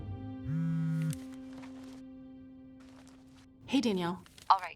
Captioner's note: phone buzzing